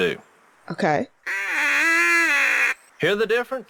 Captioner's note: whiney duck call